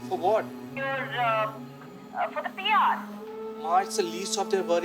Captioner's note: on phone